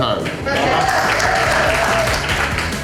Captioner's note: crowd cheering